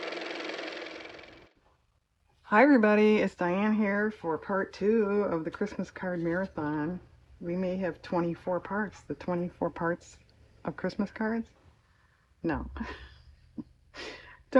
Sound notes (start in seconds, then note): 0.0 car motor